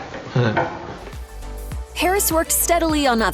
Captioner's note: chuckle